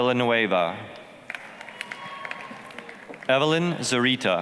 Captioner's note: applause, cheering